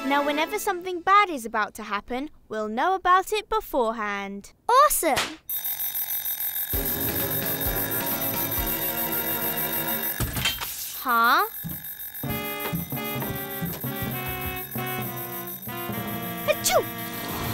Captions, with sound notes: Now whenever something bad is about to happen we'll know about it before hand. - Awesome. (beeping) (dramatic music) Huh? (dramatic music) - Achoo.